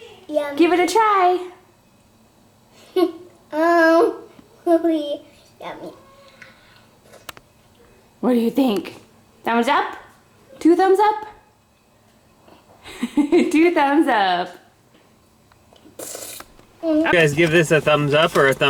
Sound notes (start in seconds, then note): 13.1 laughing